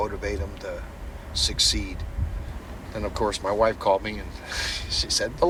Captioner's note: laughs